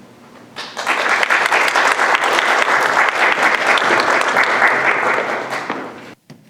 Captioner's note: audience applauding